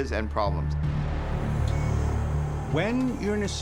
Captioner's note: monitor beeping steadily